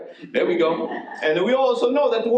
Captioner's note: audience laughs